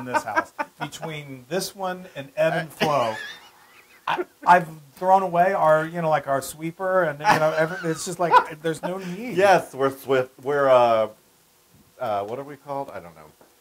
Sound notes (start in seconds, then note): 7.2 laugh